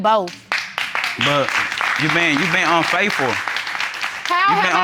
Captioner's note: applause